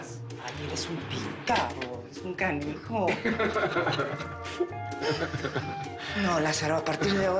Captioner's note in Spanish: Risas